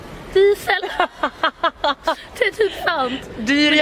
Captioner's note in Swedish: Skratt